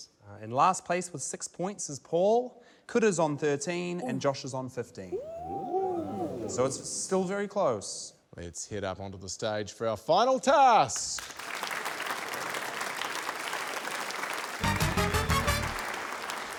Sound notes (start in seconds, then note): 10.9 applause; 14.6 quirky music